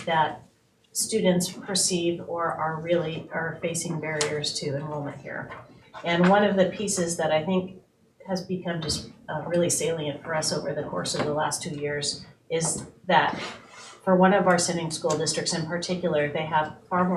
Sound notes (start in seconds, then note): none